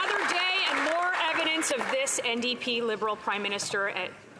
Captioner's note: some Applause